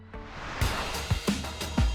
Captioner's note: transition whooshing; upbeat music